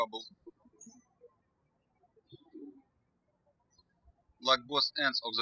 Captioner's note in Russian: птички щебечут